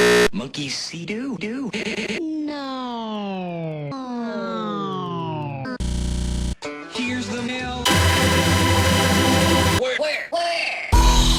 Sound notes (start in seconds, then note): 0.0 distorted reversing, stuttering, and buzzing; 1.7 laugh stuttering; 2.3 children, slowed down and lowering in pitch